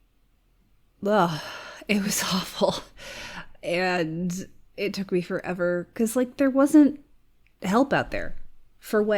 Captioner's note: sighs